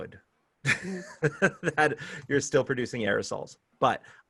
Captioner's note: laughter